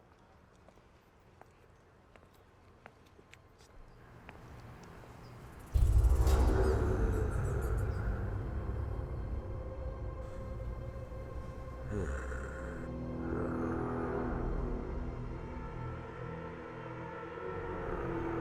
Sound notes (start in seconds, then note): 0.1 footsteps tapping; 5.9 ominous music; 11.7 Meathook Man growling; 14.8 ominous music continues